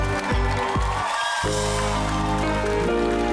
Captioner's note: audience cheering